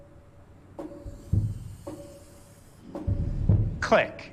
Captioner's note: whirring